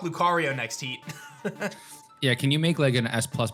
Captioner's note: laughs